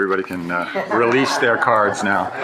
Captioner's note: shared laughing